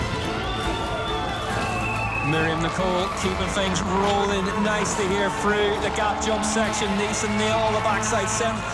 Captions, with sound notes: [CROWD CHEERING] COMMENTATOR 1:Myriam Nicole keeping things rolling nicely here through the gap jumps section. She nailed the back section.